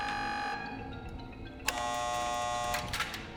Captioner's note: buzzer buzzes